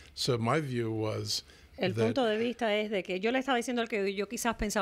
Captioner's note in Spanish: Hablando ingl\s